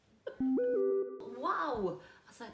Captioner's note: laughing; electronic ping